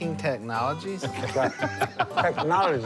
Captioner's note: laughter